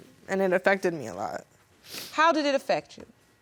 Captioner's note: sniffling